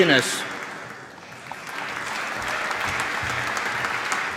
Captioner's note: applause